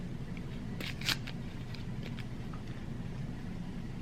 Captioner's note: paper tears